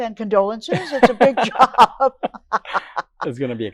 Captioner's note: laughing